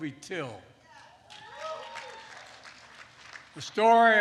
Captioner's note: applause